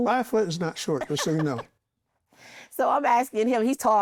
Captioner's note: laughs